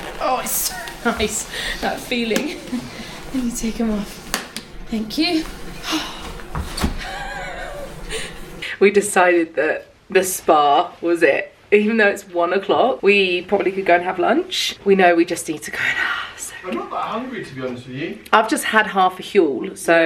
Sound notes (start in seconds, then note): 5.8 sighs; 6.9 laughs